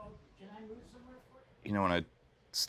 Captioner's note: indistinct conversation